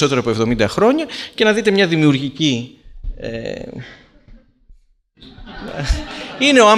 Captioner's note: laughter